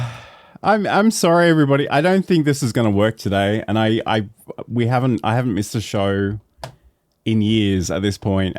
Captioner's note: sigh